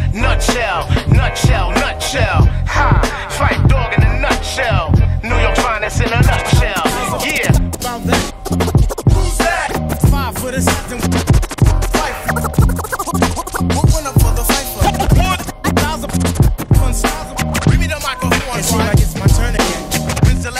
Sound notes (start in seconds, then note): 7.9 record scratching; 12.7 scratching